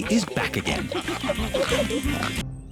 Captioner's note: all giggling and snorting